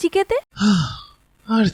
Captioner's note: sigh